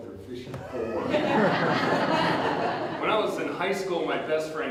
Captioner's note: audience Laughter